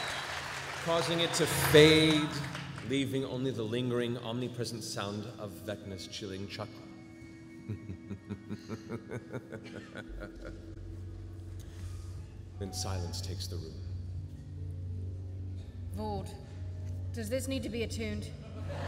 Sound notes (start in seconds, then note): 7.6 chuckles